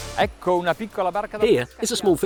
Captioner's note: dramatic theme; foreign language